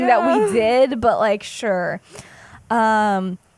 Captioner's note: laughs